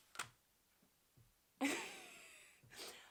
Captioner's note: wheeze laughs